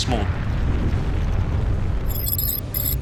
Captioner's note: deep rumble